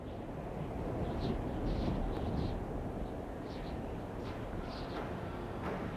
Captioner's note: wind blowing; drums and chanting